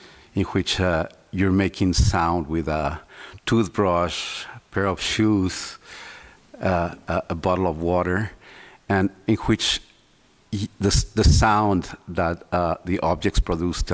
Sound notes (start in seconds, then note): none